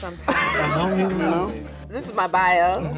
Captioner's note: people laughing